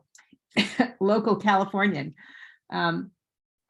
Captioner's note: chuckles